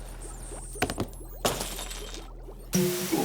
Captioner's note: shattering